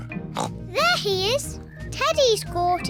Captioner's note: oinks